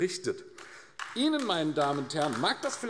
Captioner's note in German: Beifall AfD